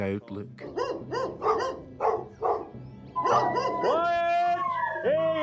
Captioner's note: dogs barking